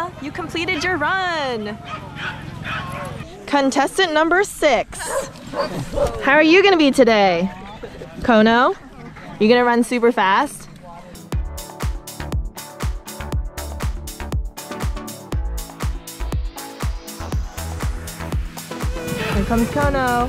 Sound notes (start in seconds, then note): 1.7 dogs barking; 5.0 dog barking; 11.4 upbeat music